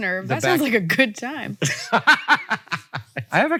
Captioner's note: Hank laughs